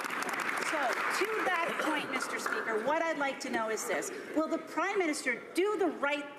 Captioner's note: some Applause